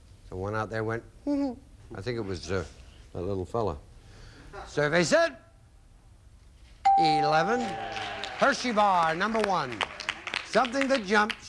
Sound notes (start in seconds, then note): 7.4 audience applauding